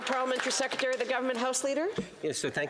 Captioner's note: applause